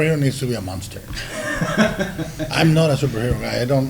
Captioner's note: laughs